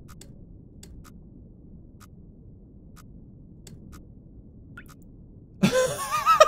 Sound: laughs

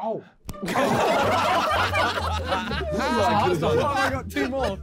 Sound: men laughing

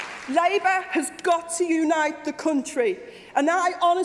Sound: applause

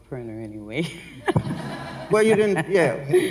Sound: laughs

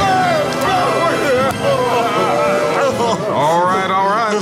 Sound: Republicans crying

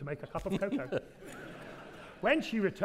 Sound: audience laughing

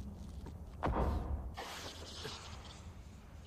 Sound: boom

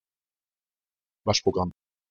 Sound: fast Pronunciation

